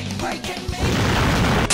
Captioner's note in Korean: 펑~!